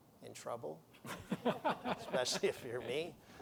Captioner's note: laughter